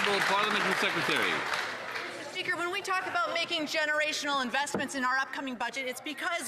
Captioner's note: some Applause